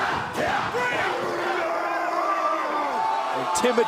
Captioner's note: fans chanting